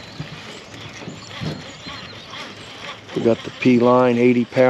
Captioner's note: reel cranking